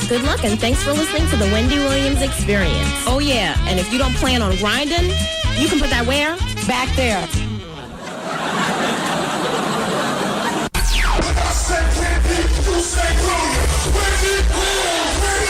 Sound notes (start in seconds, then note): 7.9 laughter